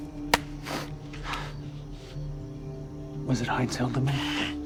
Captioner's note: hand smacking